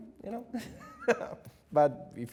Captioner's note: chuckles